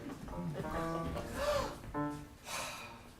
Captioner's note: gasp!